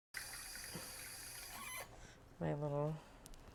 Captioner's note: water flowing; faucet squeaks